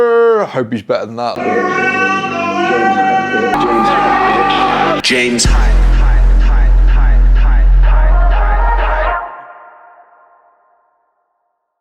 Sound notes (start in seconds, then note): 5.1 computerized Voice; 7.7 electronic music